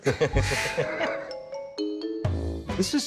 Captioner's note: laughs